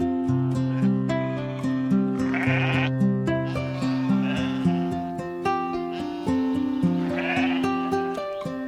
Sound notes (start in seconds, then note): 3.4 sheep bleating